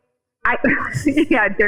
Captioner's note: laughing